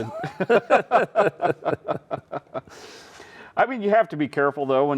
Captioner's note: both laughing